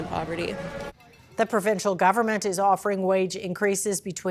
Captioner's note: horn beeping